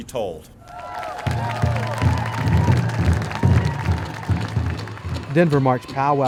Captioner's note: drums/applause